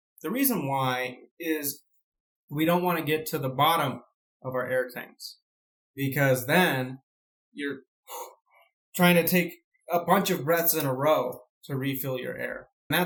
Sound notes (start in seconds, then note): 8.1 inhale